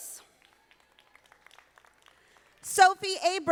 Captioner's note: audience applauding